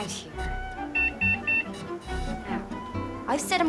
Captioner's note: beeping